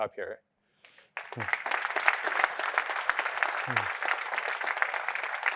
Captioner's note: applause